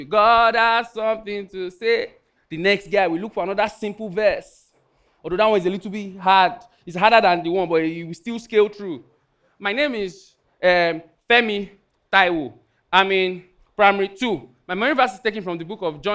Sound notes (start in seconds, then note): none